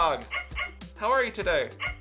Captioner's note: dog barking